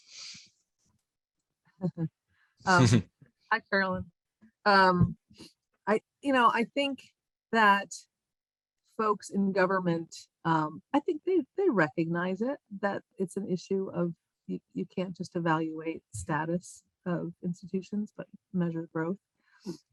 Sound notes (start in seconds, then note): 2.7 laughs